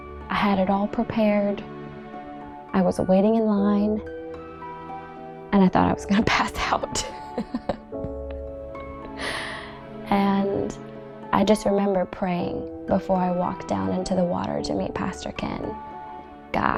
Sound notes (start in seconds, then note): 7.3 laughing